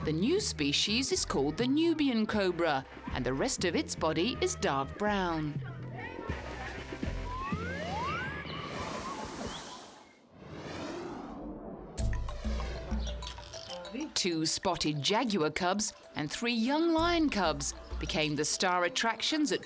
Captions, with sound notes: The new species is called the Nubian cobra, and the rest of its body is dark brown. (birds chirping) (pleasant music) Two spotted jaguar cubs, and three young lion cubs became the star attractions